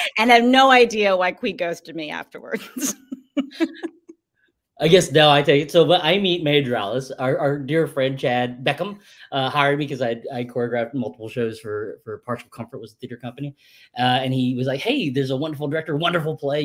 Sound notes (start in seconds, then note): 2.5 laughs